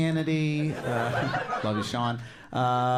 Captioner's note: audience laughing